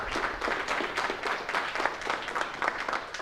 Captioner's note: applause